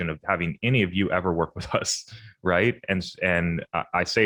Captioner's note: chuckles